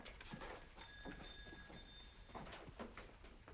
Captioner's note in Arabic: رنين الجرس